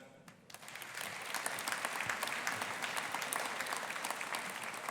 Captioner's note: audience applauding